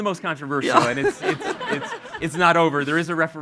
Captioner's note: all laughing